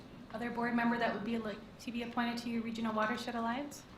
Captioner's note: none